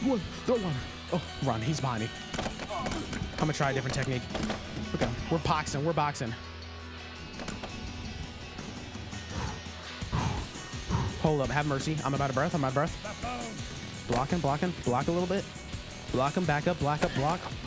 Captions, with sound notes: Don't run. Oh, run. He's behind me. I'm gonna try a different technique. Okay. We're boxing. We're boxing. [breathing heavily] Hold up. Have mercy. I'm about to breath. I'm about to breath. Uh-oh. Blocking, blocking. Block a little bit. Block him back up. Block up. Block--